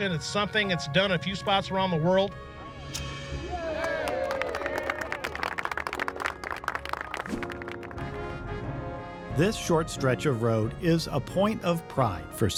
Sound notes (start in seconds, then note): 2.6 upbeat music; 3.6 clapping and cheering